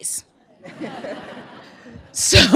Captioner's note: laughter